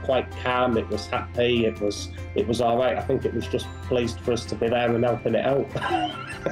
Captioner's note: laughter